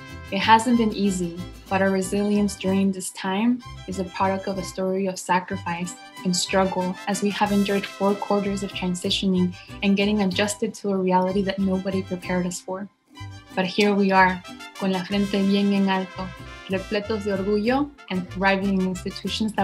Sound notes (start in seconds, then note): 15.2 speaks in foreign language